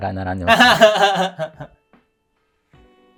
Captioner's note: laughing